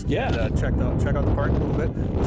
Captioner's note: wind ripping